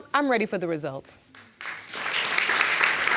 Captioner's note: applause